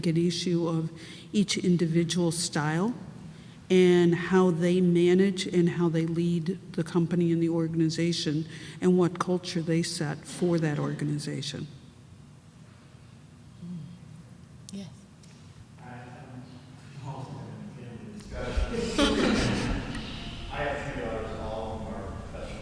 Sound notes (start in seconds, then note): 18.3 laughter